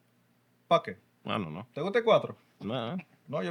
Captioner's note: speaking Spanish